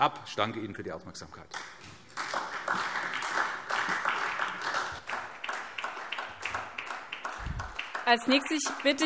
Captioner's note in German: Beifall SPD